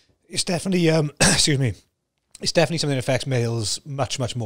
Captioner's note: coughs